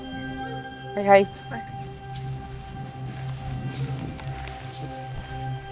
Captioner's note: speaking in Cree